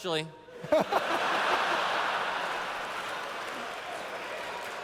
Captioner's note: laughter